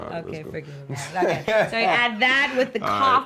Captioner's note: laughter